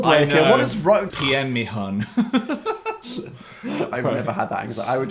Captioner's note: laughing